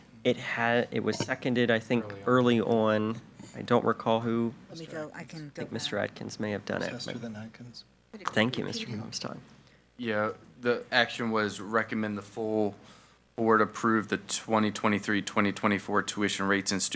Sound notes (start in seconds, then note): 4.6 speaks faintly